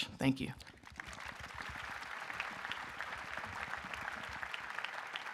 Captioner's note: audience applauding